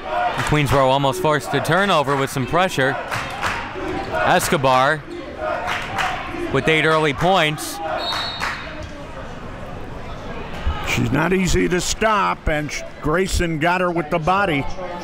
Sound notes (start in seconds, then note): 8.0 whistle blows